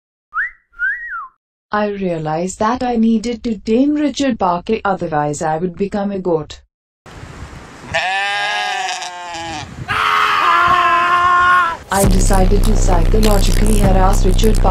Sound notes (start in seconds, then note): 7.9 goats bleating; 9.8 screams of the damned